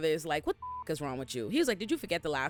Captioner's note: beep